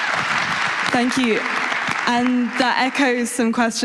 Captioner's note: applause